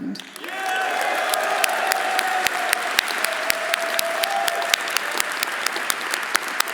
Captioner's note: audience applauding; audience cheering